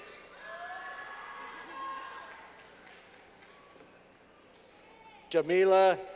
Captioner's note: clapping